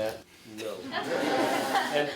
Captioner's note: laughter